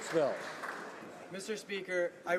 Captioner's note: applause